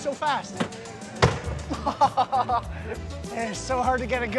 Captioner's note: laughter